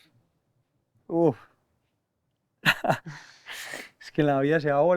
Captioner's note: laughs